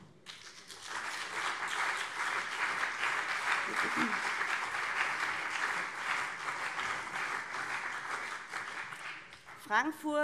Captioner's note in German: Beifall CDU und SPD